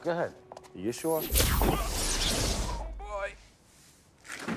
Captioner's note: groans